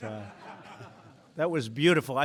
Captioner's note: laughter